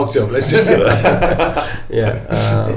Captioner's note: everybody laughing